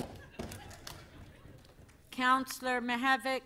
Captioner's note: applause